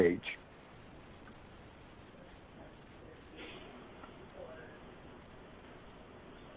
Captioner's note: silence